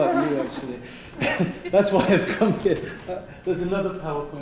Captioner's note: laugh; laughing